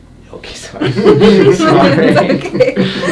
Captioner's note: laughing